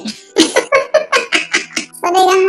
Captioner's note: laughs